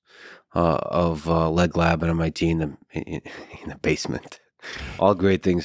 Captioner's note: laughs